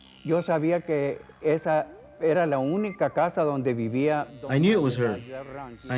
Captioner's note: speaking foreign language